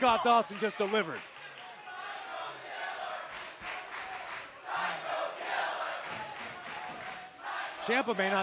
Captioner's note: crowd cheering